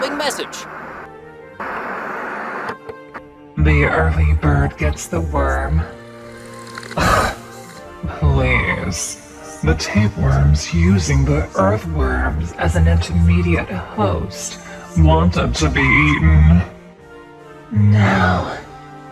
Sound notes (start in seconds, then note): 6.8 scoffs